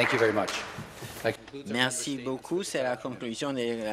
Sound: applause

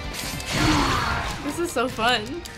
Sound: Charizard grunts

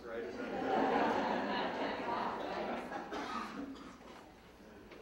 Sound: audience laughing

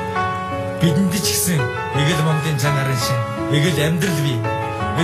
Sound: foreign language

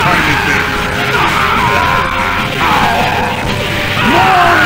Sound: more Screams

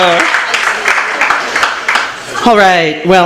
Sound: applause

